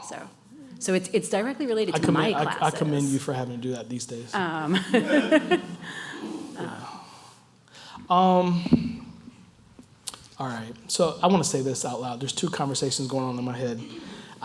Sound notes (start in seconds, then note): 4.7 laugh